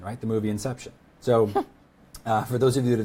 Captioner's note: laughs